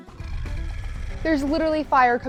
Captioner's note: dragon growling